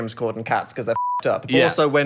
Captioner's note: beeping